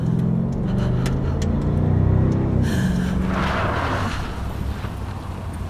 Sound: Sarah breathes heavily

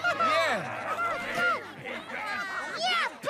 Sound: excited chatter

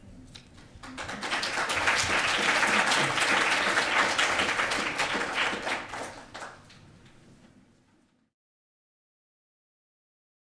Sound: applause

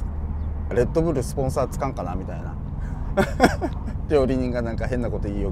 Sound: laugh

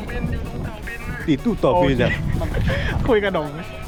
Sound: Impersonating Bank's voice

